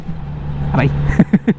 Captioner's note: hits bump